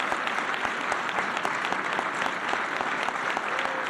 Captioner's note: applause